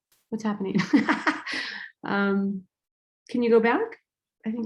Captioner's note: laughing